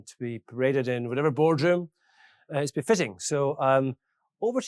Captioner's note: none